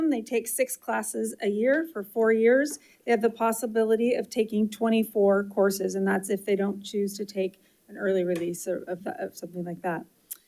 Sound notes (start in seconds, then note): none